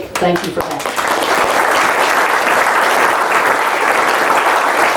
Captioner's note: audience claps